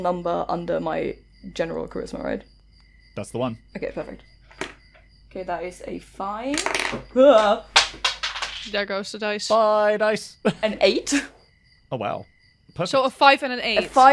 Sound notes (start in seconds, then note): 4.5 dice clacks; 6.5 dice rolls and falls